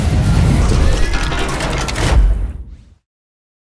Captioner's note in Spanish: sonido mecánico